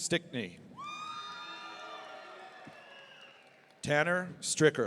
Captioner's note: audience cheering